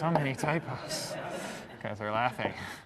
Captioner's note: laughter